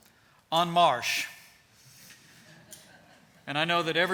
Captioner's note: laughter